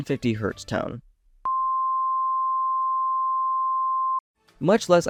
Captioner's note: single, high-pitched beep